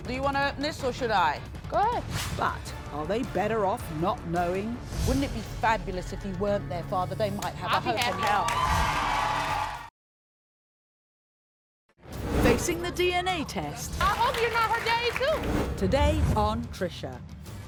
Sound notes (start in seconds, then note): 7.6 applause